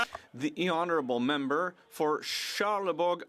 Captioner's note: speaking French